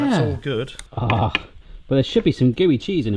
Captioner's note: salivating loudly